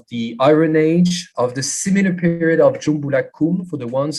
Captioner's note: non-english